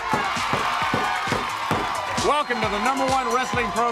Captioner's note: crowd cheering